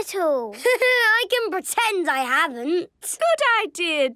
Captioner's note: Danny laughing